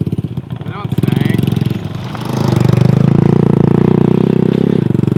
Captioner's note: motorbike roars